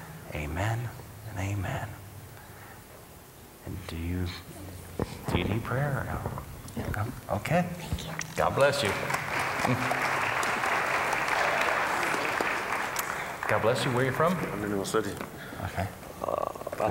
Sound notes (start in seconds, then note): 8.4 applause